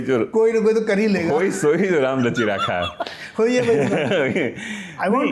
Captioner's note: laughs